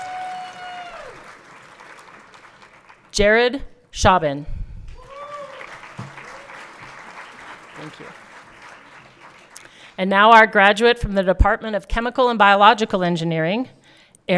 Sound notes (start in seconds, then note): 5.0 everyone cheering